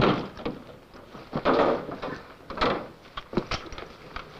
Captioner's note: clanking